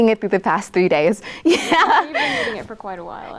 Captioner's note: laughs